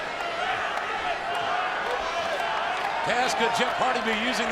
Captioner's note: audience cheering